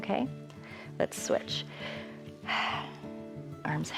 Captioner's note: exhales